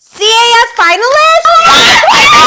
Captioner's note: screaming